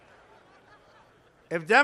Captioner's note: laughter